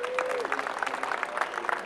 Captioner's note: applause